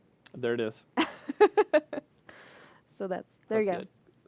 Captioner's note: laughter